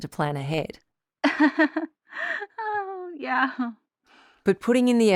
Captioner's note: chuckles guiltily